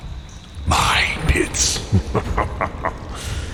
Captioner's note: laughs